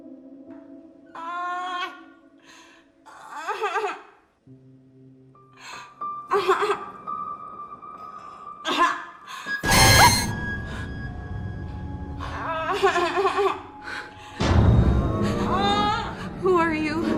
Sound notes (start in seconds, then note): 0.0 baby continues crying; 9.6 WOMAN shrieks, begins to take shallow, panicked breaths; 13.8 crying continues as WOMAN takes a deep breath; 13.8 takes shallow, panicked breaths